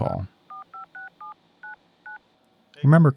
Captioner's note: phone dialing